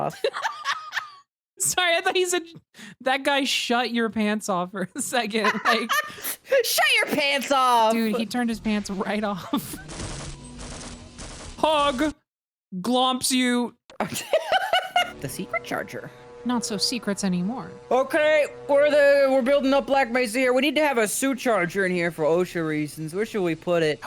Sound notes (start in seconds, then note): 0.5 laughs; 14.0 laughs